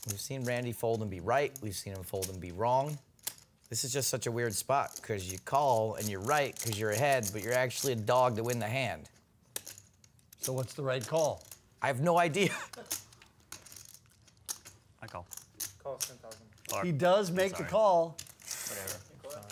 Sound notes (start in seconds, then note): 12.4 laughs